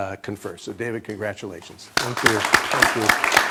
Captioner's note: applause